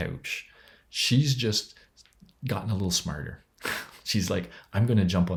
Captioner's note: chuckles